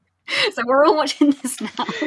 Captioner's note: laughing